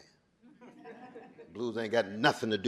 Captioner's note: audience chuckling